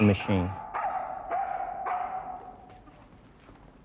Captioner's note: barking